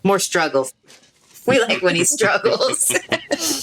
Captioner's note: chuckles